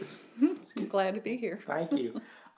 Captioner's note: giggles